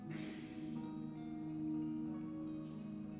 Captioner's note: Mitch sighs